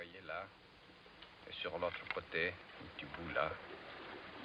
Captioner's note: speaking french